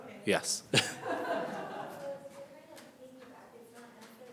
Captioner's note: laughing